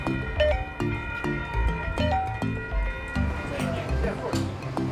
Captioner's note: smooth music; electronic chiming